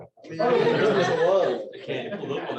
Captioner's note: laughter